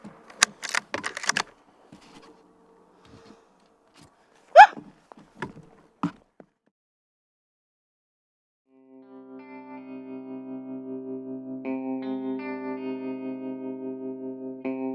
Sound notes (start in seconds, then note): 0.2 gun cocking; 4.5 host exclaiming; 8.8 gentle music